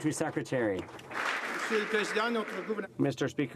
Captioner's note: some Applause